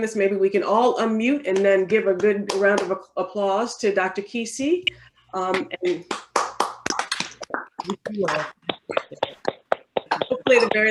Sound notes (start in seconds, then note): 6.0 people applaud